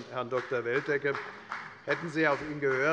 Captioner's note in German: Beifall bei der FDP und bei Abgeordneten der SPD